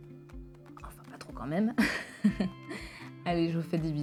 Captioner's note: laughs